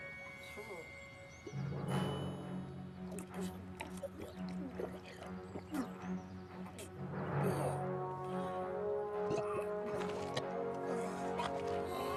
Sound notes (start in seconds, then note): 7.8 groaning